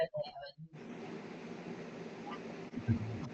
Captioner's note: static crackles